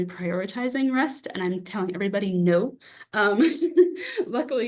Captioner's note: laughs